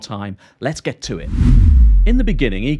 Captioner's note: whoosh